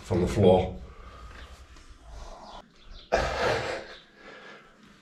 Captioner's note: snigger